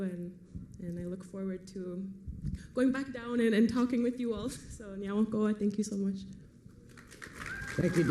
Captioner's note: foreign language